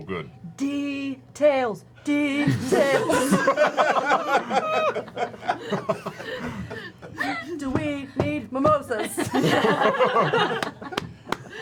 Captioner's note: laughs